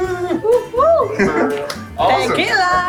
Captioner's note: both whooping